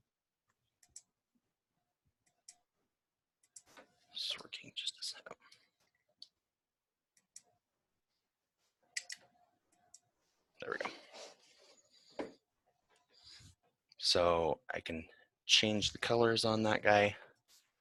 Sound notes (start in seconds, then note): none